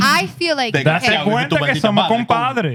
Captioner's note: speaking Spanish